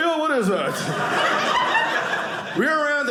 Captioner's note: audience laughing